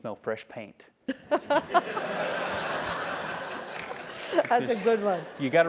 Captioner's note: laugh